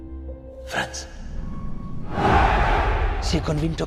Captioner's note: in Italian